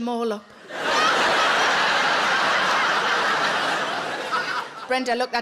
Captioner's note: audience laughs